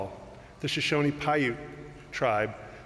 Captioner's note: none